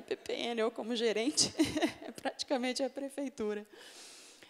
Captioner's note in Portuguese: risos